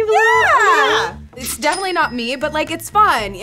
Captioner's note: register ringing